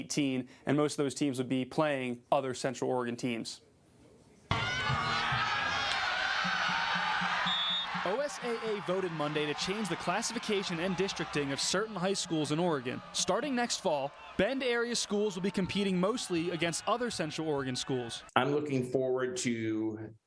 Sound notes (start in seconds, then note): 9.1 football sounds